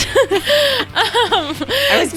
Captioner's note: laughing